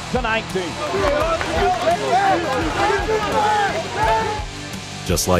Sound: cheering

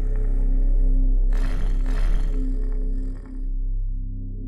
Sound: Mohuru growling

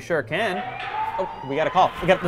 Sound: siren

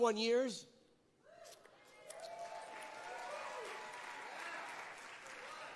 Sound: congregants cheer and applaud

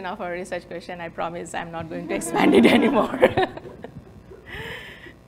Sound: laughs

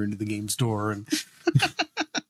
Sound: laughing

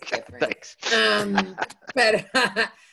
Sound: laughs

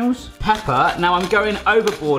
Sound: grinder crunching

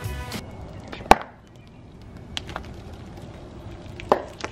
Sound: crackling noise

